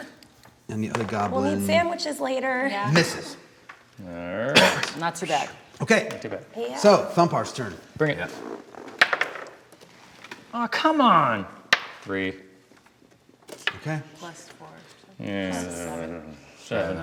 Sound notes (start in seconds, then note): 8.9 dice clacking